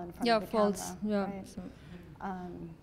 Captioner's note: voiceover